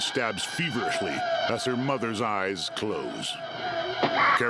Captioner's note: screaming echoing; echoing